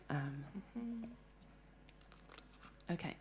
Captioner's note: humming